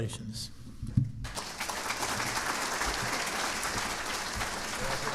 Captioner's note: audience applauding